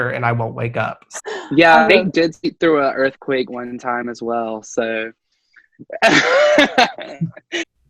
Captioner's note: laugh